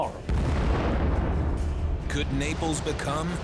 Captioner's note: explosion echoes